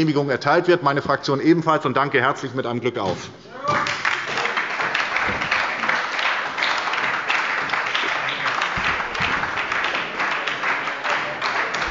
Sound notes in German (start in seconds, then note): 3.6 Lebhafter Beifall bei der SPD